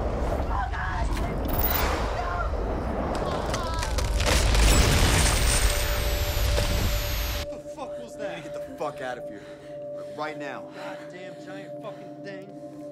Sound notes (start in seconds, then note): 3.0 static buzzing; 3.3 bones crunching